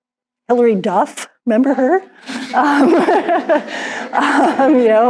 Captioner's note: all laugh